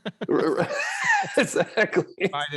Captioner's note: laughing